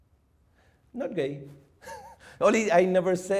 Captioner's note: chuckles